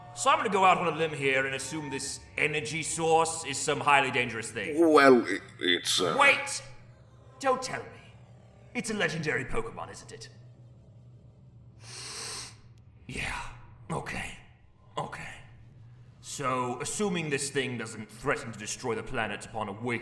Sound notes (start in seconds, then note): 11.8 sniff